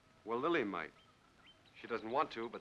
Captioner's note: none